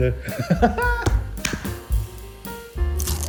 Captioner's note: laughter